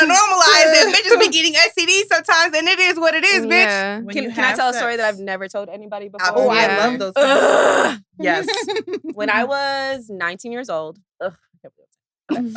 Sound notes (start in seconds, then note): 7.2 frustrated sigh